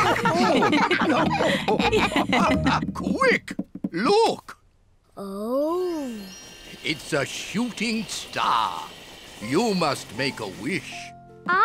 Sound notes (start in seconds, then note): 0.0 all laugh